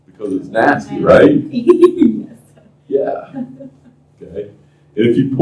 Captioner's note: laughter